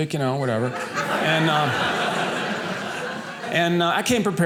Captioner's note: audience laughing